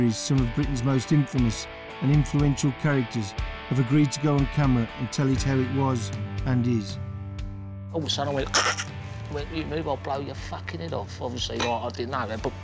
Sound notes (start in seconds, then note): 8.5 exclaims